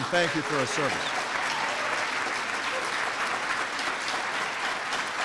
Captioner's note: applause